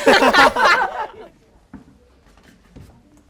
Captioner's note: laughing